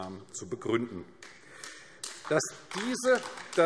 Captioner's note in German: Beifall AfD